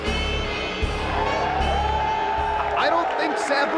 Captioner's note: spectators cheering